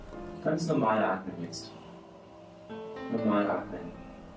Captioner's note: therapist speaking in German